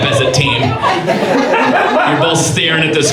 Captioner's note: audience laughs